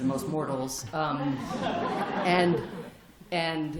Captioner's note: laughter